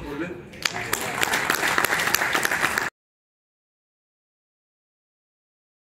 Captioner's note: clap